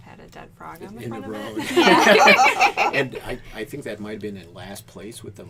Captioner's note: laughter